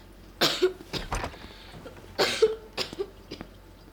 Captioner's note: coughs